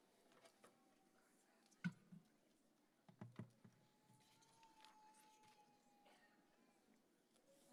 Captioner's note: none